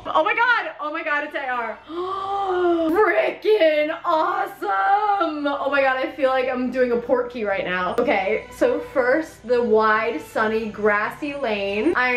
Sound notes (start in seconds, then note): 1.8 gasps